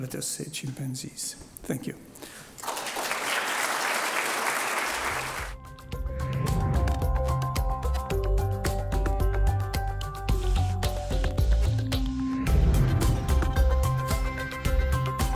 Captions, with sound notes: as I said, the chimpanzees. Thank you. (audience applauding) (peaceful music)